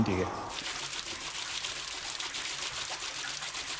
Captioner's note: rhythmic noise, quiet splashing